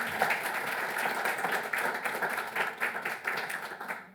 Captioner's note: applause